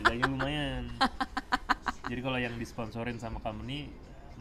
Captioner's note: laughs